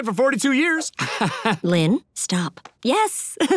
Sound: laughs

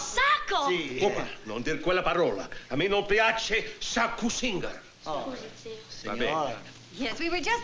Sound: speaking italian

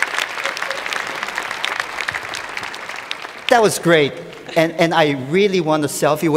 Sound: cheers and Applause

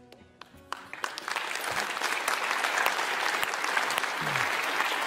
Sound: audience clapping

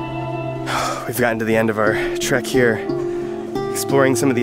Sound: sighs

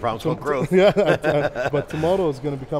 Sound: laughs

